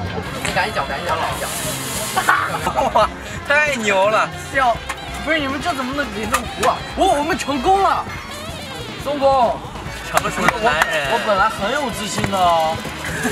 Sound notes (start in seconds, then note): 1.5 sizzling